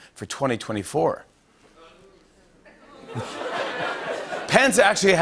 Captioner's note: laughter